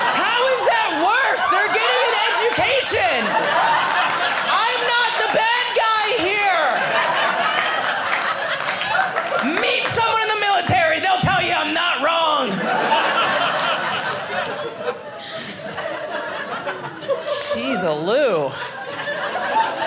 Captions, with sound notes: How is that worse? They're getting an education! (audience laughing) I'm not the bad guy here! (audience laughing) Meet someone in the military. They'll tell you I'm not wrong. (audience laughing)